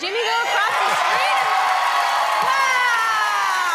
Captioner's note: applause